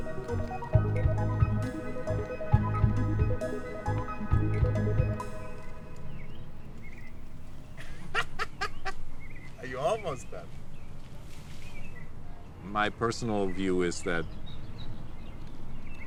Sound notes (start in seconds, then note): 4.3 music stops; 7.8 daniel laughing